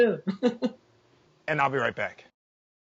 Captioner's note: laughing